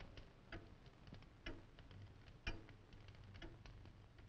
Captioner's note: clock ticking